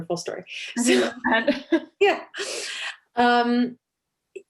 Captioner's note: laughter